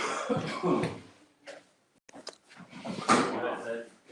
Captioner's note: coughing